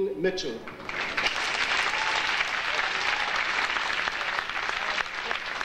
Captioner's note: audience applauding